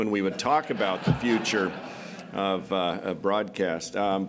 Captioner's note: laughter